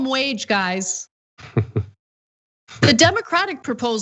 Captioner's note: laugh